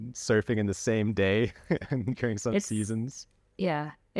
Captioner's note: laughter